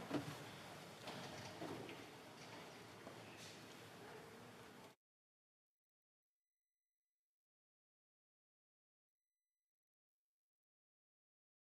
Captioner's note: moment of silence